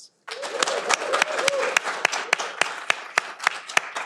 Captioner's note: audience applauding